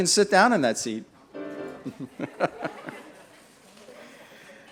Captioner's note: laughter and music